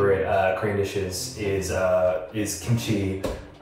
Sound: speaks in foreign language

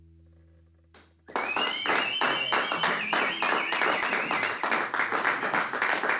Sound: applause

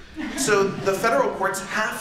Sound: laughter

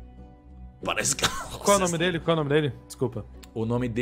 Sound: coughs

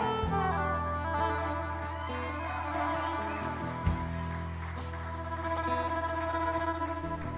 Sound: applause and cheers

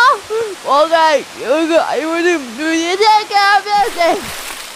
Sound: splash!

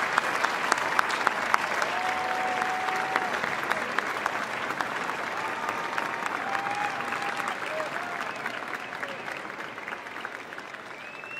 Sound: cheers and applause

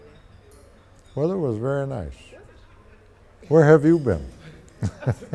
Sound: laughs

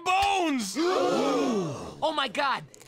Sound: crowd gasps

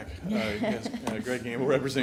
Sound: laughs

